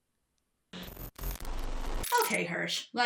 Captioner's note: audio glitches